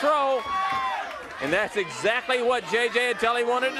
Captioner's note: crowd cheering